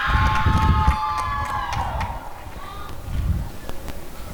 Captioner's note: applause and cheering